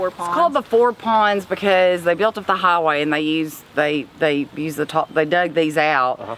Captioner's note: stammers